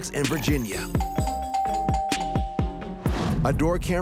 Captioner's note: doorbell ringing